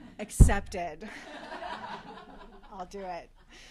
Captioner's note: laughter